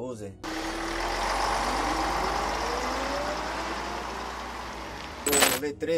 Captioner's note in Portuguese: barulho motor de onibus